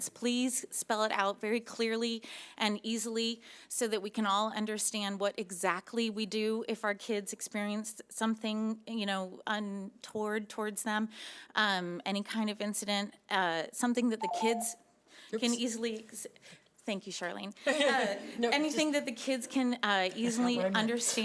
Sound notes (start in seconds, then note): 17.8 laughing